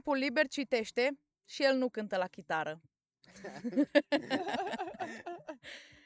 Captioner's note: everyone laughs